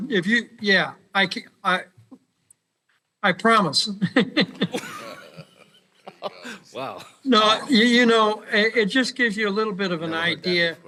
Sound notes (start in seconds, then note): 1.4 laughter